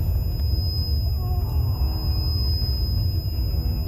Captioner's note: groaning